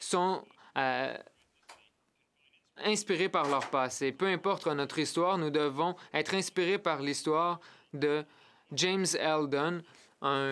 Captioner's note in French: voix de l'interprète